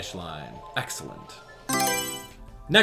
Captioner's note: Mario Selection Sound